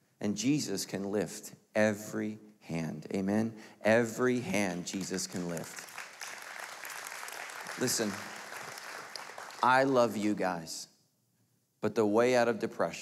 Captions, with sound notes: and Jesus can lift every hand, Amen. Every hand, Jesus can lift. (applauding) Listen, I love you guys, but the way out of depression,